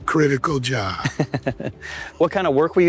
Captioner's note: laughing